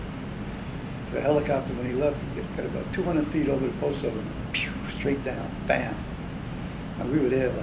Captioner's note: whistles